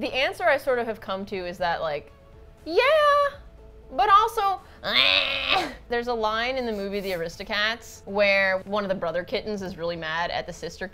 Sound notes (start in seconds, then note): 2.1 high-pitched voice; 4.3 gravelly gremlin voice